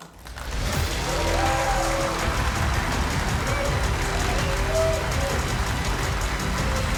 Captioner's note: audience cheering; cheerful music